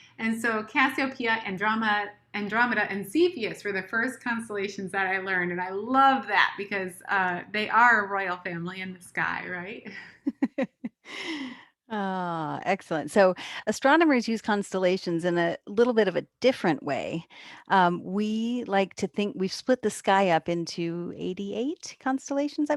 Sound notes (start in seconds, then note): 10.2 chuckles